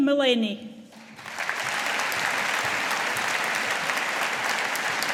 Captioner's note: audience applauding